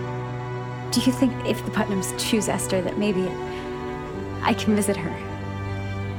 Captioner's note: voiceover